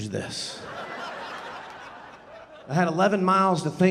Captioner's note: audience laughing